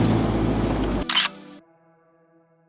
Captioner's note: photo Click